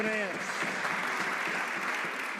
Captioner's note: some Applause